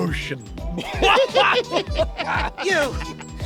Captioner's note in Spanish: Carcajadas perversas